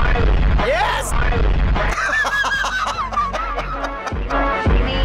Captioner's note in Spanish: la música se intensifica; Risas